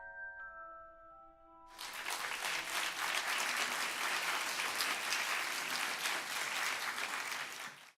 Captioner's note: applause